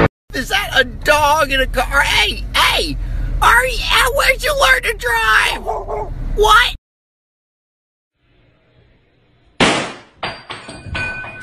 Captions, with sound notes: Is that a dog in a car? Hey, hey, are- uh- Where'd you learn to drive? *dog barking* What? *GUNSHOT*